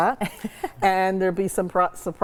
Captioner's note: laughs